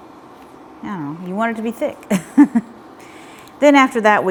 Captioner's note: chuckles